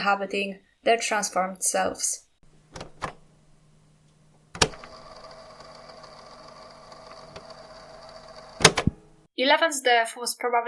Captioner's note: cassette sound